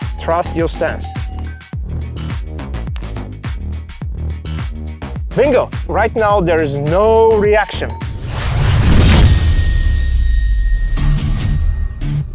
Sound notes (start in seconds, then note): 2.9 hand tapping; 8.0 logo whooshing